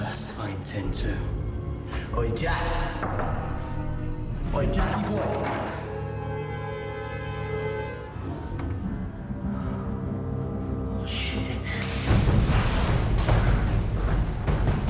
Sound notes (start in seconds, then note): 2.8 door knocks; 6.1 suspense music; 12.1 action music